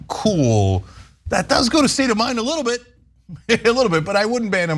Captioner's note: laugh